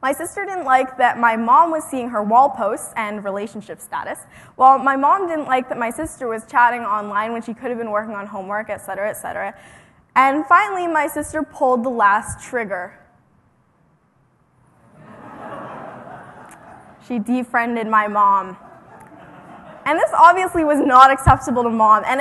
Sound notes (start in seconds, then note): 14.9 laughter